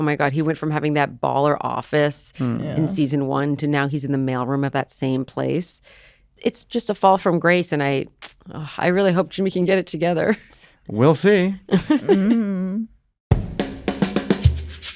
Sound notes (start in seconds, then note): 11.7 chuckling